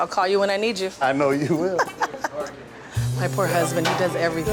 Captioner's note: woman laughing